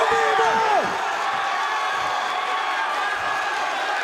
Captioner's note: crowd cheering